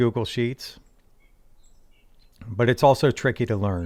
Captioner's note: birds chirping